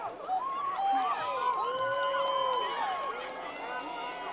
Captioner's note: crowd applause